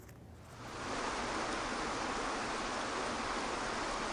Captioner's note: water flows